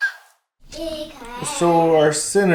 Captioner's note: chatting